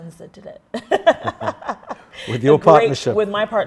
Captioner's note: both laugh